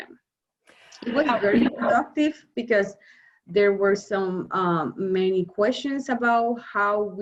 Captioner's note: murmurs